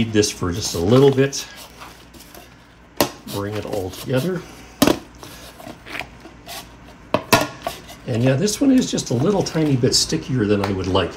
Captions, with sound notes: this for just a little bit. Bring it all together. [crunching] And yeah, this one is just a little tiny bit stickier than I would like.